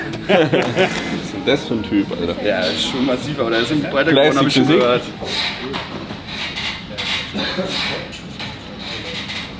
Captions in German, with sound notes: [gelächter] Das für ein Typ, Alter. Ja, schon massiv, aber der ist breit hab ich gehört.